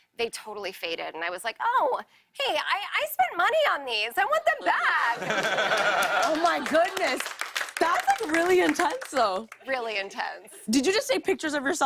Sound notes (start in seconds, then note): 5.1 laughter and applause